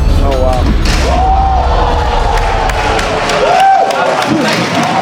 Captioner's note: spectators applauding